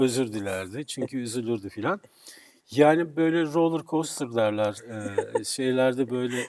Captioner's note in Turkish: kahkaha